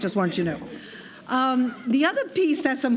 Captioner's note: laughter